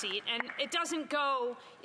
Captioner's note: applause